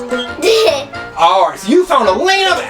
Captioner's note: laughs